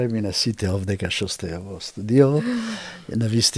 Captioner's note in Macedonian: тешко дишење